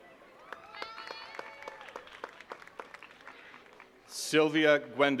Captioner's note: attendees cheering and clapping